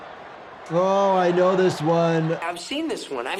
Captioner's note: stadium buzzing; spectators cheering